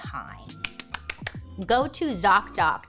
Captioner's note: clapping